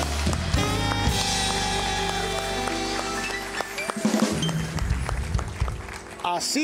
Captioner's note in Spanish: Aplausos